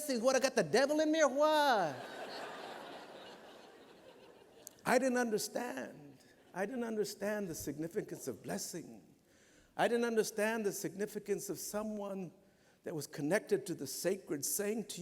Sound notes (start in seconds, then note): 1.8 laughter